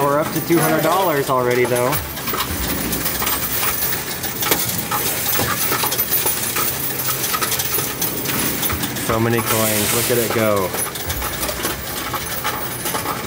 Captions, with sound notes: we're up to $200 already, though. (coins rattling) (upbeat music) So many coins. Look at it go.